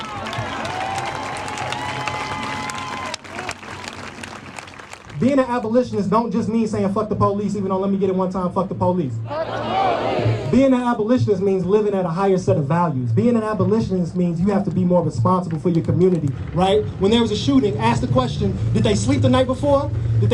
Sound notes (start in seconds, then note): 0.0 applause; 9.3 the crowd chants